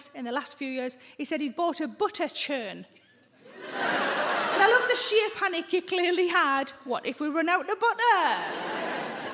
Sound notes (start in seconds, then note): 3.5 audience laughs